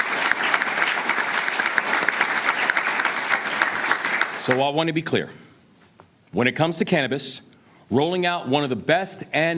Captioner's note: applause